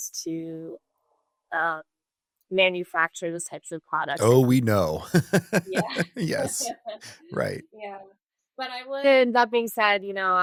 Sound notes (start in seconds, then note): 4.2 laughs